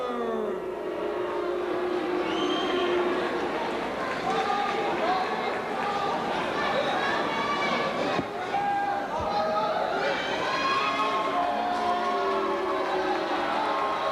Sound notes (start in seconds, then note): 1.7 crowd cheering; 3.5 crowd chatter